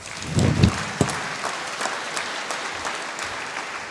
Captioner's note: applause